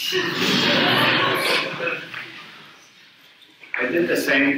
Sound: audience laughs

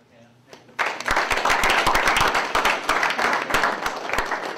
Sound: applause

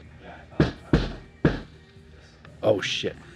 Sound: knock on door

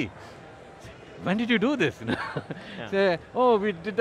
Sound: laughs

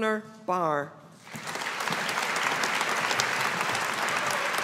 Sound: audience applauding

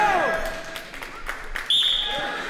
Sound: whistle blows

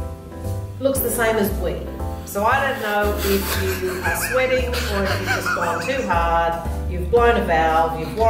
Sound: laughter

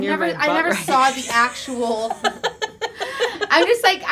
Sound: laughs

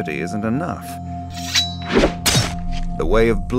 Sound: drawing blades

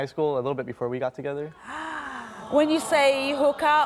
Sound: audience gasps

